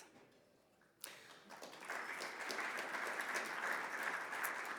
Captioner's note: audience clapping